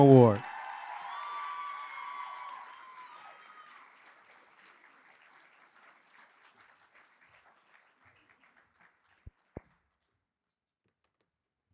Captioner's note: applause